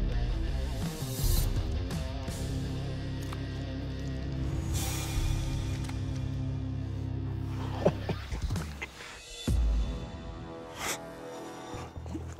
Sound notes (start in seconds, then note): 7.5 man laughs